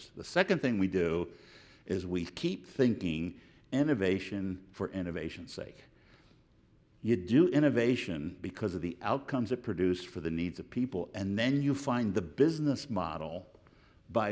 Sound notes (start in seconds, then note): none